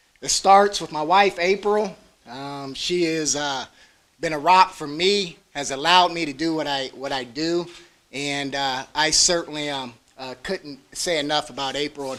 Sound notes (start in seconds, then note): none